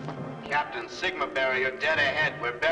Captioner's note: loudspeaker